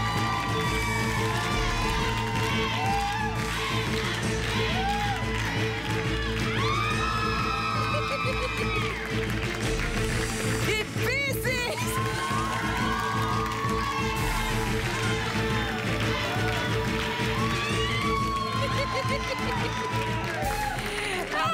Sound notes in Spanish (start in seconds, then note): 0.3 Exclamaciones; 4.5 Gritos y exclamaciones; 5.9 Risas; 13.0 Exclamaciones